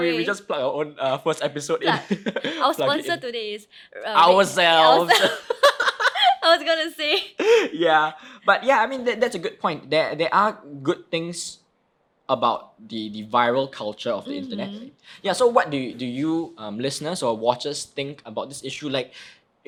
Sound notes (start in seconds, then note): 4.8 both laugh